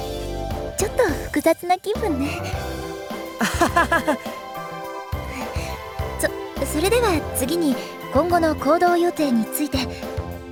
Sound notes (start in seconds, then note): 3.4 laugh